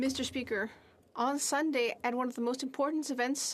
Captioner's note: speaking French